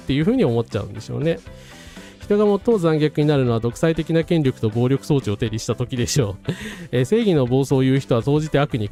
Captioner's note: laughs